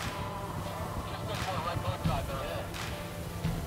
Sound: radio chatter

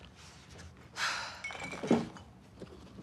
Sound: sighs

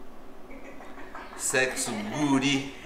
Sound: laughs

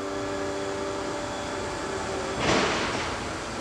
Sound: machine noise

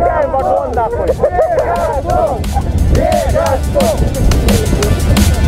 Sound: sounds of joy

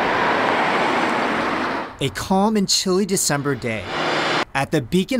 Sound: car driving by apartment; cars driving by apartment

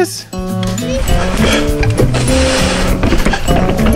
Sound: bike rolling

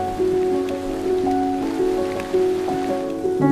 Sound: rain patters

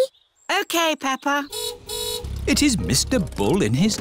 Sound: car horn honks

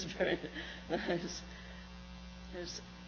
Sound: laughs

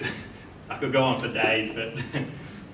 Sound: chuckles

